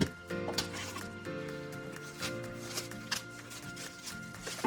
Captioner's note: plastic ripping